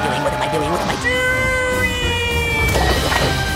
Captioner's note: yells